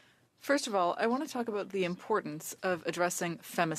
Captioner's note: speaking French